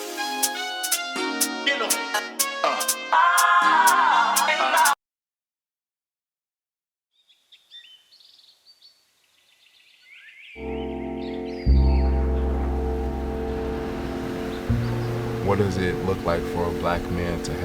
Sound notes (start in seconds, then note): 7.2 birds chittering; 10.6 gentle melancholic music